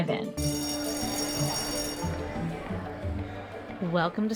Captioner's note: gentle instrumental music; bell ringing